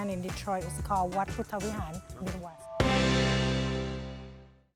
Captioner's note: foreign language